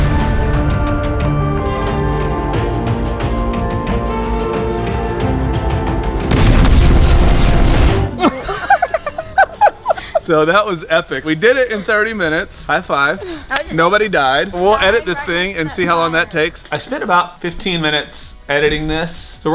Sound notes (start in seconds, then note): 0.0 tense music; 8.1 all laughing